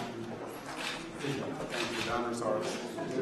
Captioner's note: camera clicks